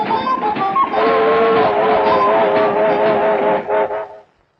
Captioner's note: train whistling